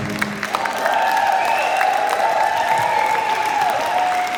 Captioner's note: wild applause and cheering